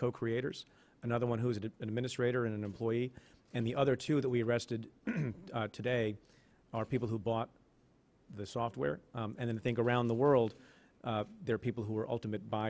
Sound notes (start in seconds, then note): 5.0 clears throat